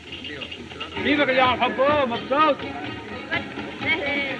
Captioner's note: chattering In Native Language